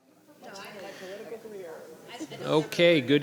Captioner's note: people chattering